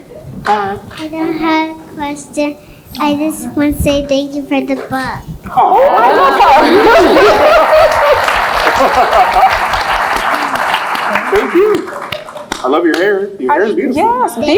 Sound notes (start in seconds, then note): 8.9 laugh; 9.6 applaud